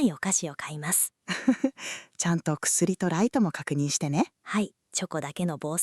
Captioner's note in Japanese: くすり